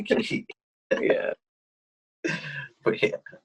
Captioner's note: laughs